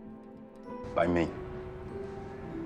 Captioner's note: voiceover